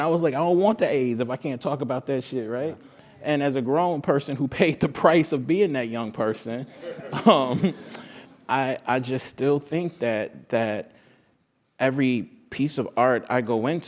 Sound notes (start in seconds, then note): 6.8 laugh